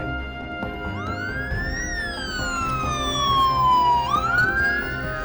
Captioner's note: siren